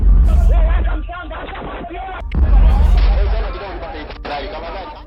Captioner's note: speaking foreign language